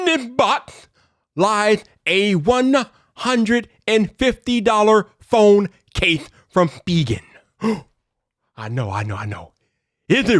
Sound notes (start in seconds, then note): 7.3 gasps